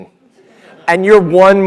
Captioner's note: laugh